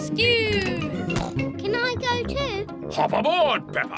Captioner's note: snorts